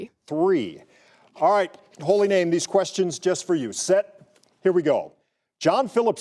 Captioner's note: none